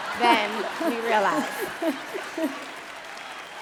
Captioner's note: laughing